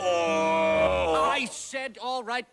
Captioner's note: groaning sound